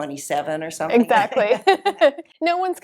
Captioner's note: both laugh